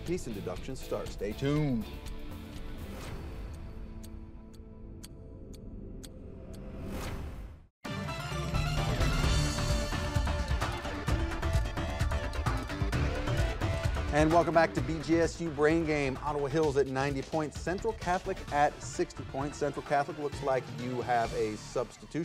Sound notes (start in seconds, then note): 2.0 clock ticking; 7.7 intermission music